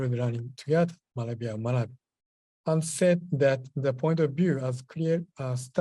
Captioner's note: japanese